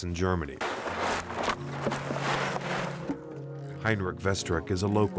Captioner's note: rocks shaking